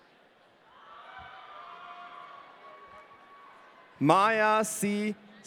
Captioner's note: audience cheering